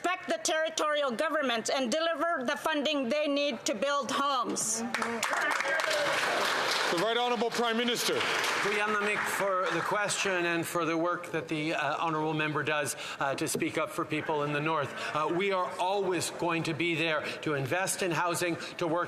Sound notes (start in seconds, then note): 7.8 some Applause